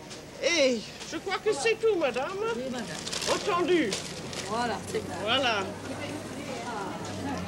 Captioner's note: conversing in French